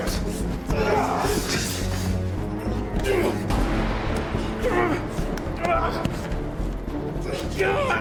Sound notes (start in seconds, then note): 0.0 tense menacing music; 0.5 both grunting